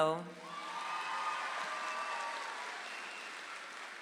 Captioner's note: audience applauds